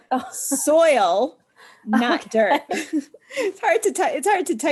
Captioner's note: laughs; laugh